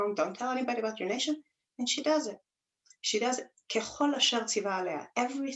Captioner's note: Hebrew